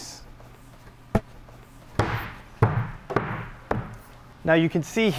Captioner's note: wood thudding